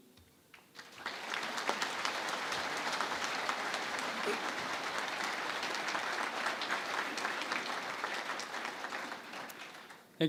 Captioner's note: applause